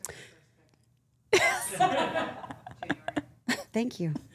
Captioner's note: group laughing